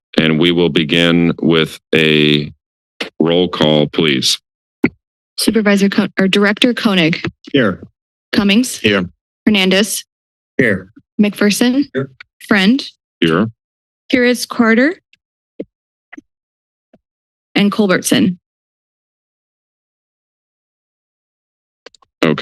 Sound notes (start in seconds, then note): 15.9 silence